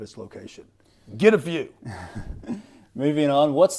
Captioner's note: laughing